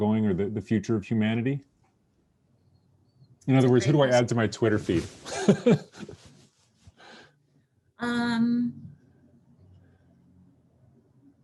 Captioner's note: brief laughter